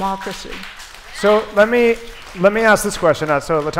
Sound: applause

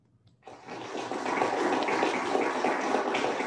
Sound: applauding

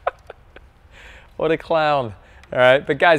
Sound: laughing

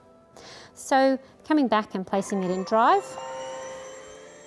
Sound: machine hums

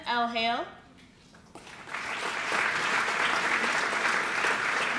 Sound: applause

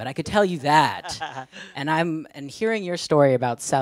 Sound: laughs

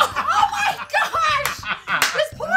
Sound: laughing

